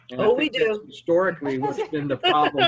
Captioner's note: laughing